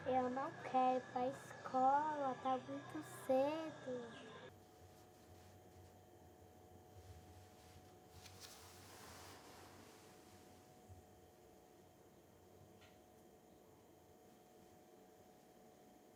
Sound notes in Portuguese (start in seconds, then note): 5.2 silêncio